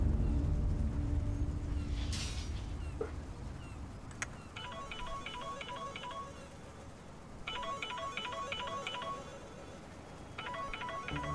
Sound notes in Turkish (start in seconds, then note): 7.4 Telefon çalıyor